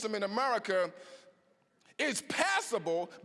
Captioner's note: none